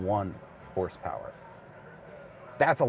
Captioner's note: crowd chattering indistinctly